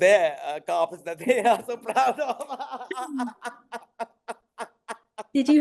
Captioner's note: laughing riotously